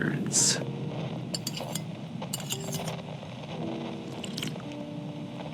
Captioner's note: soup slurp fx